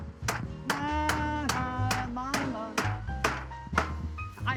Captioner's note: hammer pounding; humming